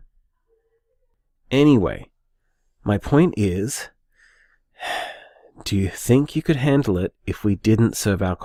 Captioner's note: deep breath